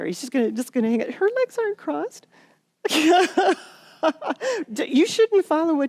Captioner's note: laughter